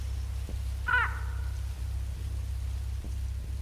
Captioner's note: bird caws